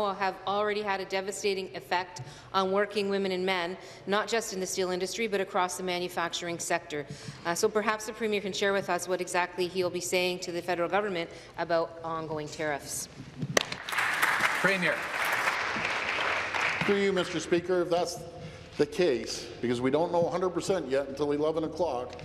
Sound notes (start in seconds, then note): 16.0 applause